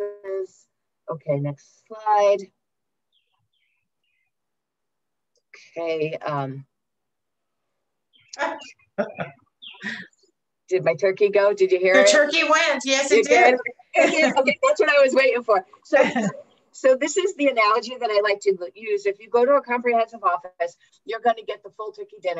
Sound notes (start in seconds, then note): 8.0 chirping from a bird is heard; 9.0 laughter; 15.9 laughter